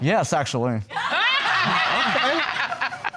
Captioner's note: audience laughing